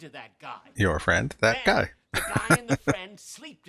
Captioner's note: chuckling